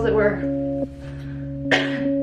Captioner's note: cough